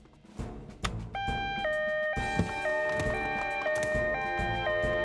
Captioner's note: alarm Blaring